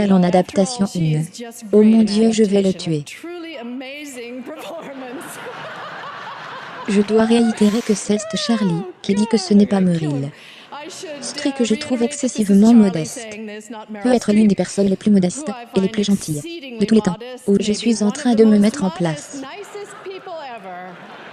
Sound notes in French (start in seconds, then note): 4.4 des rires; 21.1 des rires